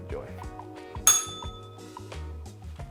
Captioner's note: bell rings